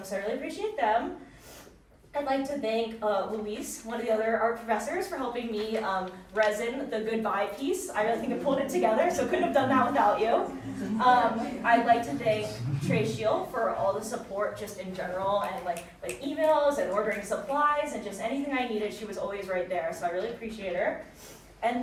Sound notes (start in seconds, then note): 11.6 audience chattering; 16.2 fingers snapping